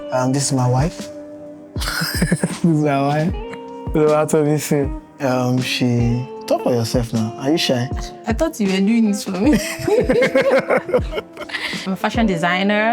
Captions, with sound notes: This is my wife. (laughing) This is my wife. Oluwatomisin. She... talk for yourself now. Are you shy? I thought you were doing it for me. I'm a fashion designer.